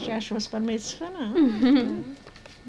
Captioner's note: both laughing